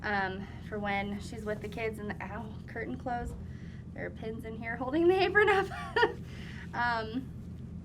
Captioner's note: laughs